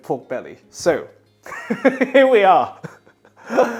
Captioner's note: laughing